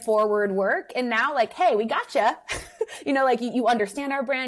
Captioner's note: laughs